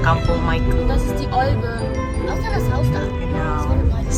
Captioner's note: speaking German